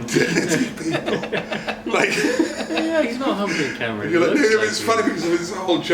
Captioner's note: laughs